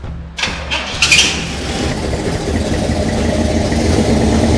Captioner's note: engine purring